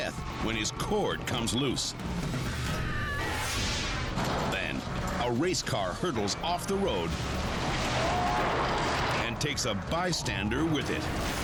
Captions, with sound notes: when his cord comes loose. (bystander screaming) (air whooshes) Then, a race car hurdles off the road (car crashes) and takes a bystander with it.